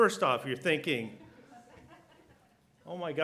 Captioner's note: laughter